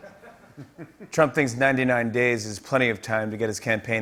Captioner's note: Russian accent; normal voice